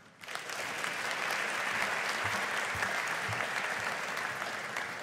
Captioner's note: audience applauding